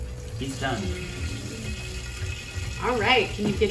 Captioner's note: chicken sizzle sound